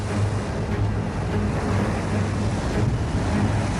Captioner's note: water rushing